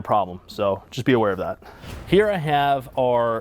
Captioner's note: air whooshes